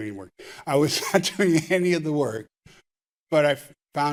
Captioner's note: chuckling